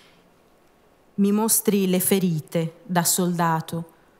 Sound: speaking italian

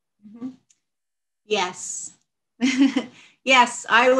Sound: chuckles

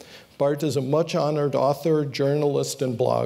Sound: none

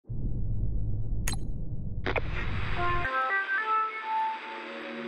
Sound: button press, radio jingle

